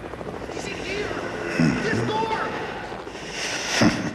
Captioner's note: Darkman grunts